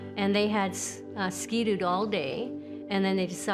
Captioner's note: none